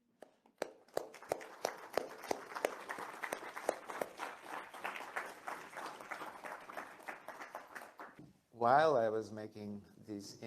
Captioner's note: applause